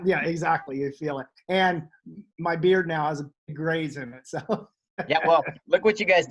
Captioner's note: chuckles